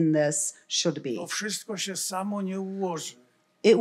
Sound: foreign language

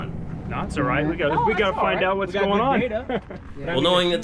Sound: crew chatting

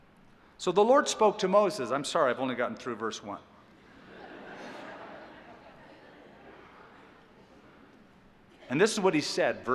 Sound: laughter

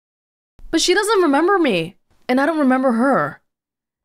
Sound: none

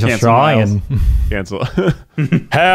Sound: laughing

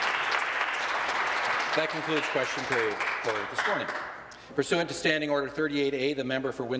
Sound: applause

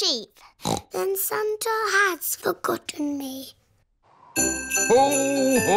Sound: snorts

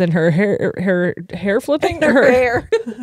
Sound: both laughing

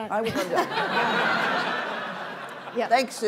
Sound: audience laughing

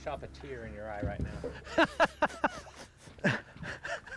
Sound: laughing

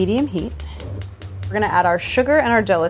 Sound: stove clicking

